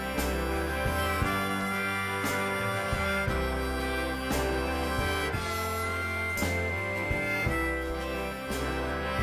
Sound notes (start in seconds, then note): 2.7 traffic humming